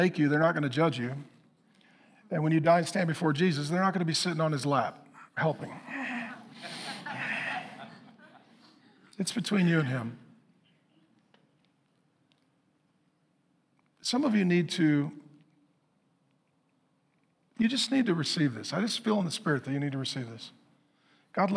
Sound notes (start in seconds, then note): 5.2 congregation laughing